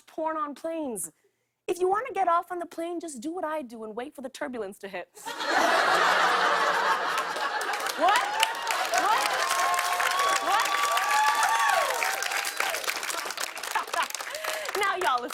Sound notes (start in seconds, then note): 5.2 laughter; 10.3 cheers and applause; 12.8 laughs